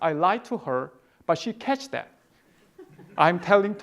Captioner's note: audience laughing